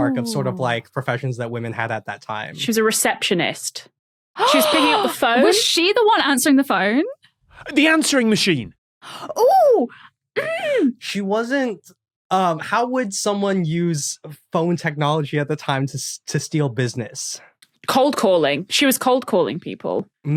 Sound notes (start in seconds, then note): 4.4 gasps